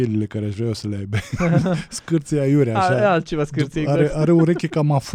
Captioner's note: laughter